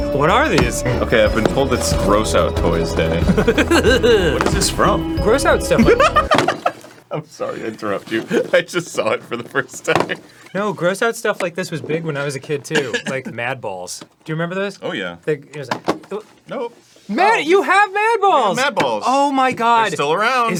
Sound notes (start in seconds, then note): 3.1 giggling like a gremlin; 5.7 busts out hyena-esque laughter